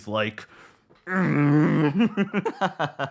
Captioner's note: grunts; laughs